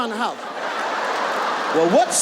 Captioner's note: audience laughs